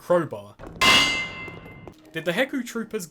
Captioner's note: crowbar sounds